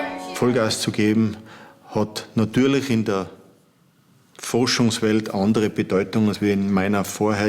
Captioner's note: German